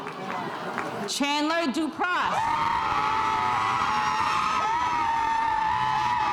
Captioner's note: spectators cheering